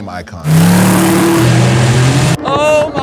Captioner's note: engine revving